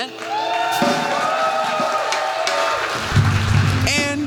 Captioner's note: cheers